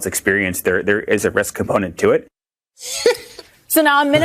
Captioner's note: laughs